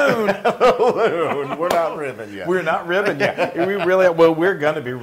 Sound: laugh

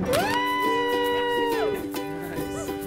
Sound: cheering

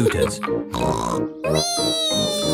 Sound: snorts

